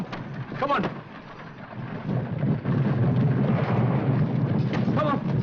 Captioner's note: wind blowing & hooves pounding